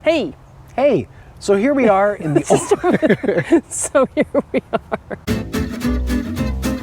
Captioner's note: laughing